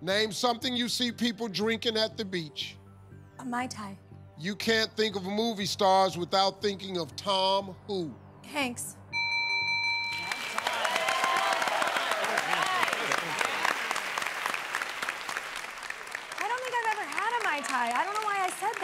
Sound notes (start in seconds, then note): 9.1 bell rings; 11.4 cheers and applause